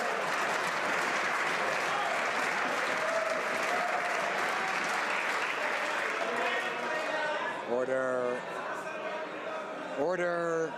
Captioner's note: some Applause